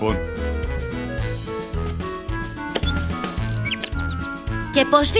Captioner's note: countryside sounds, digging